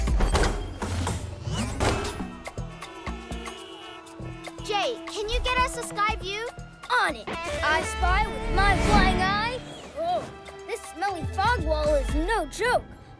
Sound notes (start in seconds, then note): 2.1 honking